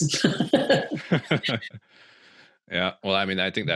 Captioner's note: all laughing